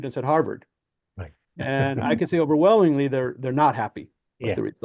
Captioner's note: laughs